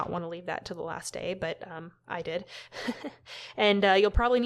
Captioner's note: awkward laughter